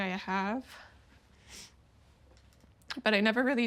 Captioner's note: quiet sob